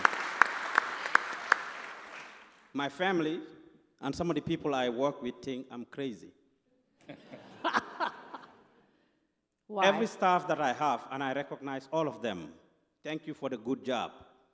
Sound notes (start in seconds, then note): 0.0 applause; 7.0 laughter